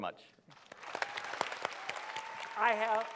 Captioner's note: applause